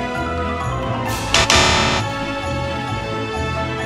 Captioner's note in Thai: เสียงเตือนรหัสผ่านผิด